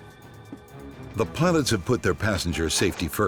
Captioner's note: voiceover